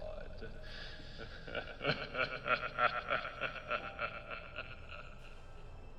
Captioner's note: evil Laughter